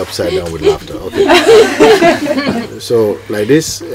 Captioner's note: laughter